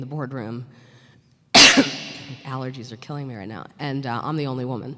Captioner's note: coughs